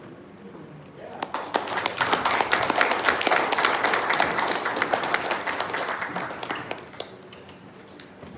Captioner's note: applause